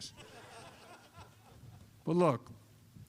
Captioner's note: laughter